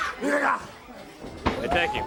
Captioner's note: crowd chatter